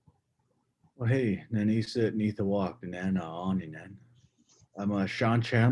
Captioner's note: speaking in a native language